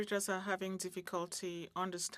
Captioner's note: speaking French